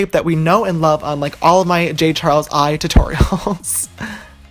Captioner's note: laughing